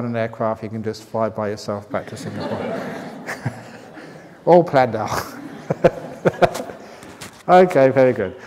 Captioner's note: laughter